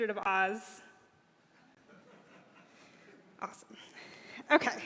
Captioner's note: laughter